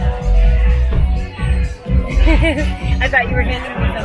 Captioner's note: laughing